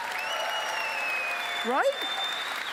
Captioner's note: applause